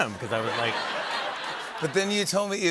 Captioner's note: laughter